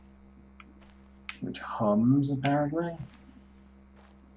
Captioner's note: hums